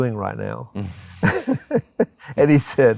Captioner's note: both laugh